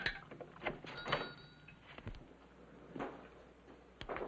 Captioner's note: bell ringing